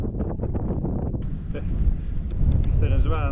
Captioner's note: laughs